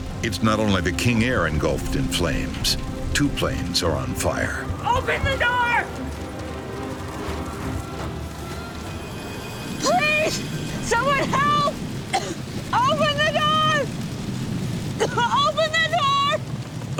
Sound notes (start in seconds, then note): 6.7 people screaming faintly; 9.4 flames roaring